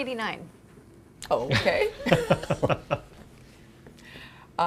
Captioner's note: laugh